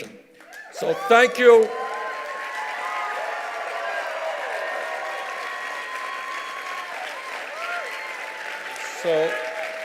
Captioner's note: cheers and applause